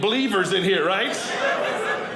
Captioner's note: audience laughing